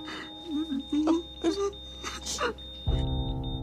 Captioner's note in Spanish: Sollozos